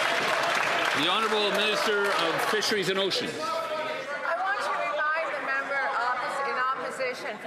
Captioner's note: some Applause